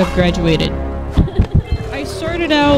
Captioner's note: laughter